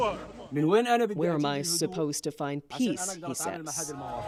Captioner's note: speaking alternate language